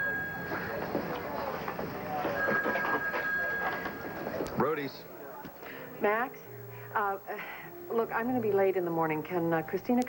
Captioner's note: telephone rings